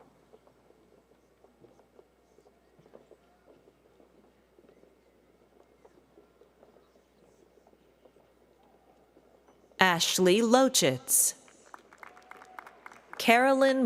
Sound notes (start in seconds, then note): 2.3 cheers and applause